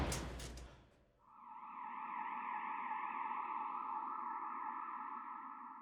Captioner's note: door slams; sirens